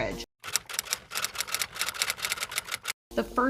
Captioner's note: typewriter typing